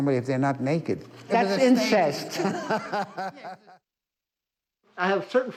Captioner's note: laughing